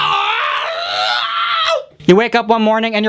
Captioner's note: pained scream